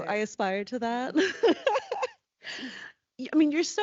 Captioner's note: laughing